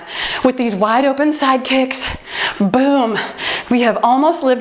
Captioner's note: timer beeps